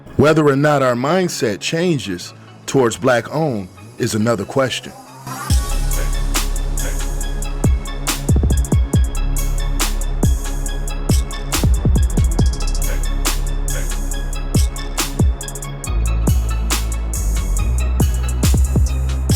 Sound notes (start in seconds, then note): 5.2 singer humming; 5.2 upbeat music